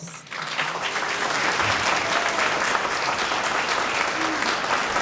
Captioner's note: audience applauding